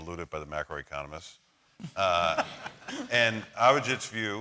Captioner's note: laughter